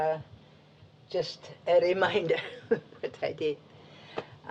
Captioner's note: laughs